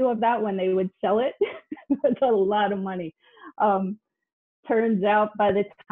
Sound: laughs

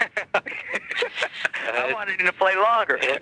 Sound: both laughing

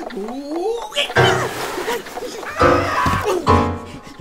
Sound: yells

